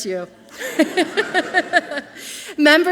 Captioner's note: and audience laughing softly